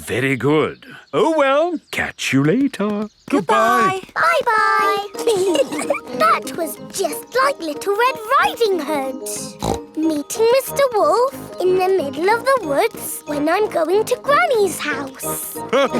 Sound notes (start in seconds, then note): 5.1 giggling; 9.4 snorts; 15.7 all laughing